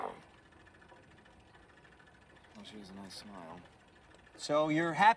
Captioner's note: growling